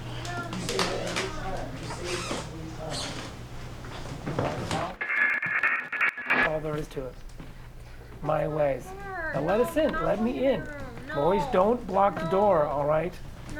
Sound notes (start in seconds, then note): 4.9 buzzing